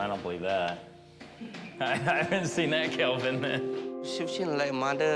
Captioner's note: laughs